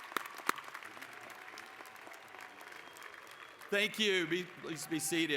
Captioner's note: applause